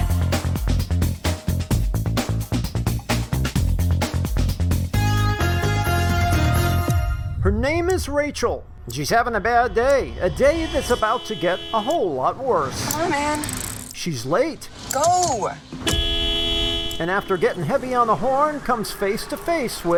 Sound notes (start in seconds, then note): 14.3 hooting